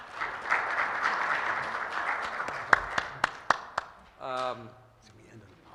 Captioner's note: applause